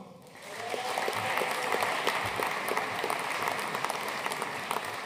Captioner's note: audience cheering and applauding